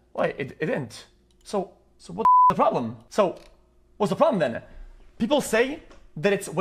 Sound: beeps

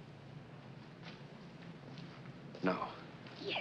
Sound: none

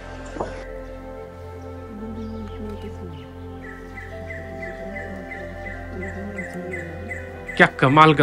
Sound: bird Chirping

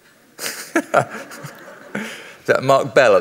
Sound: laughs

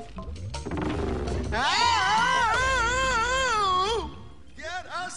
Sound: both screaming

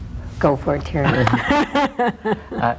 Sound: laughs

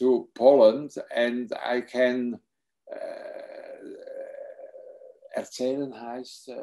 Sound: speaks foreign language

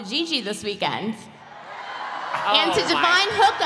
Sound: cheering

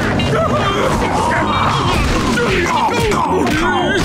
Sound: groaning, grunting

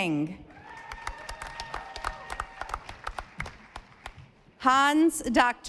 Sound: audience applauding

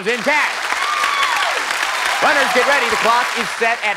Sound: cheers and applause

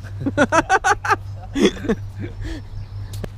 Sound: laughing

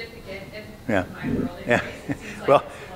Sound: faintly speaking

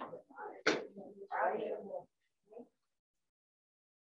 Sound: group chattering

